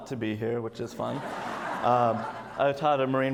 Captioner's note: audience laughs